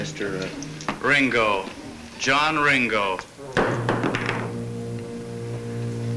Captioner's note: glass thuds